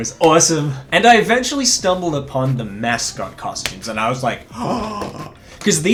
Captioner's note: gasp